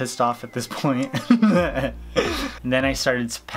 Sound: laughs

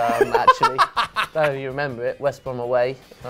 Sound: laughing

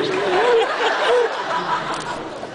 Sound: laughs

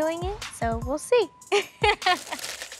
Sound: laughing

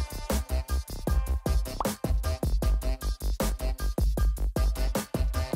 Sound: upbeat rhythmic hip hop music; popping notification tone

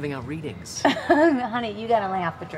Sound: laughs

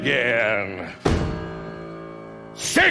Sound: thud

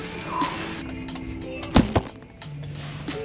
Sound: camera knock over

